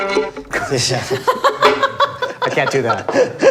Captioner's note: laughs